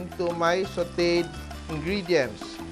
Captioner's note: sizzle